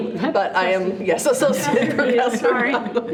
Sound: trustees laugh

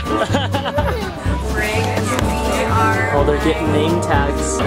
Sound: laughs

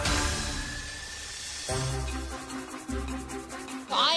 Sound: mixer whirs

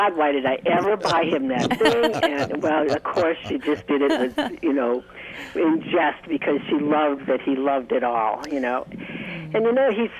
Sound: laughter

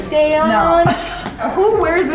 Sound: laughs

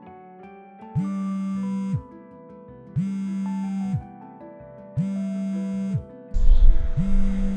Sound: vibration sound

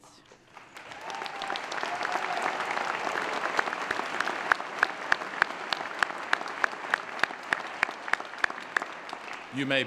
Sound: applause

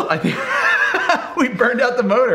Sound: laughing

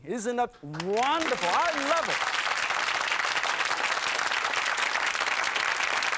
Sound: audience applauding

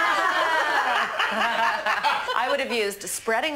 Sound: all laughing

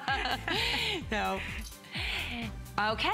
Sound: laughter; laughter

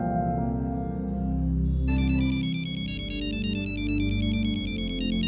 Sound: phone ringing

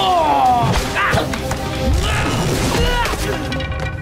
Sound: grunting

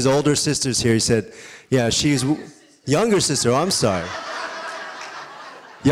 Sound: audience cheering

